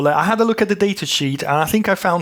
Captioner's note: none